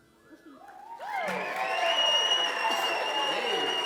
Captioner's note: cheers and applause